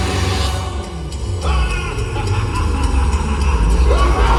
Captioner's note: Jack the Clown laughing